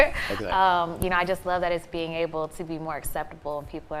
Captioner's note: laughing